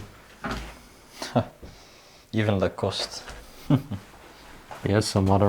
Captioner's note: laughs